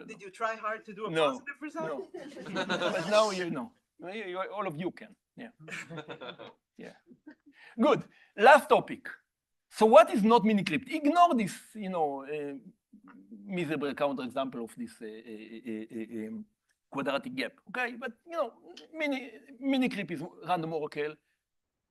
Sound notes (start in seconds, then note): 2.0 laughter